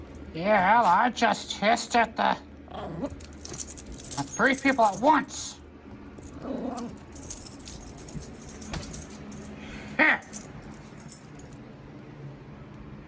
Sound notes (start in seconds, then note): 5.6 scoffs; 6.2 growls